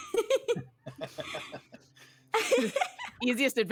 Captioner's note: laughing